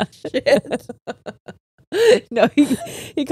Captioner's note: all laughing